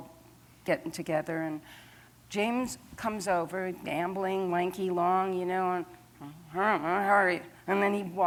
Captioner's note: mutters